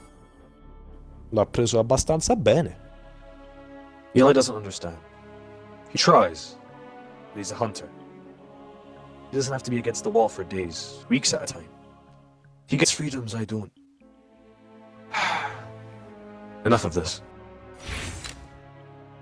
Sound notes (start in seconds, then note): 1.2 renzo speaks italian